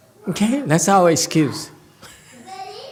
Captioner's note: laughs